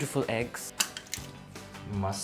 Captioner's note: cracking egg